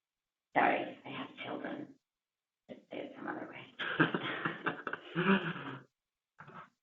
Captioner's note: laugh